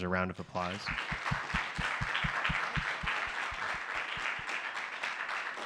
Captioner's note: applause